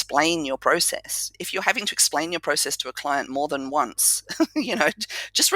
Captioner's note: laugh